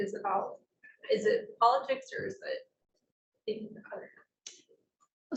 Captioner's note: speaking faintly